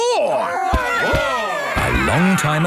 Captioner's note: all roaring